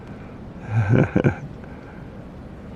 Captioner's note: laughing